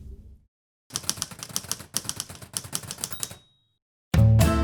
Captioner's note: typewriter sounds